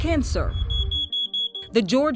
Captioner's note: detector beeps